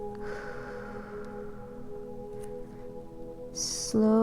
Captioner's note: inhales deeply; exhales deeply